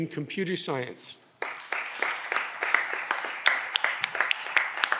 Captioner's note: audience applause